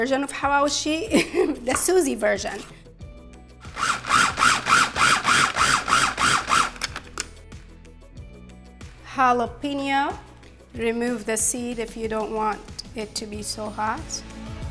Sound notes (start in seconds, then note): 1.1 laughs; 3.6 food processor whirring